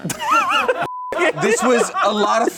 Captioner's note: laughs